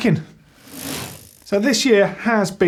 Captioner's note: bike chain whirring